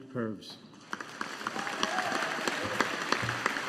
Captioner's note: audience applauding